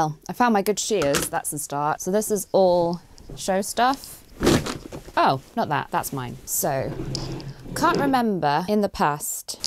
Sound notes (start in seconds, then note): 4.4 thud; 6.4 table scraping